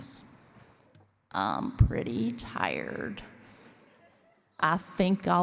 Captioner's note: forrest gump voice